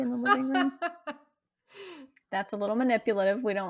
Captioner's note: laughing